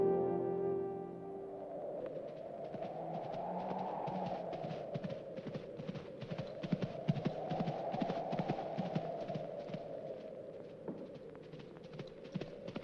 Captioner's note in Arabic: موسيقى درامية ناعمة; تهب الرياح; تدق حوافر الخيول